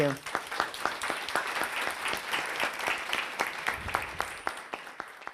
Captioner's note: audience applauds